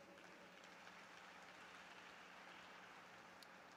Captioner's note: applause